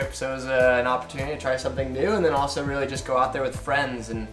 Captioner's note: none